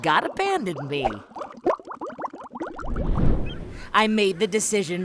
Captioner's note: bubbling